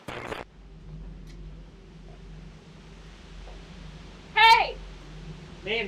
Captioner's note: static hisses; dark brooding music